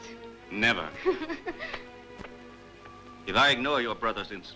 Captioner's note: Iole laughing